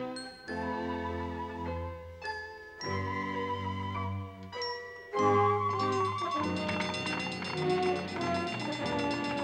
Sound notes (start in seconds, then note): 5.5 siren bell ringing